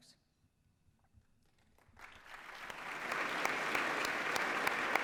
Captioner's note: applause